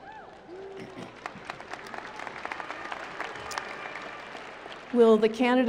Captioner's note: applause